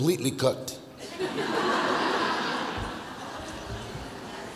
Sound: audience laughs

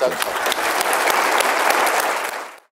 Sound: applause

